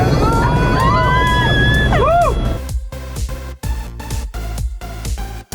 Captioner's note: screaming; upbeat music